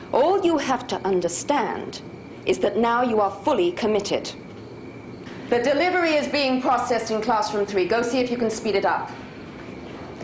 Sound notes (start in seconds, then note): none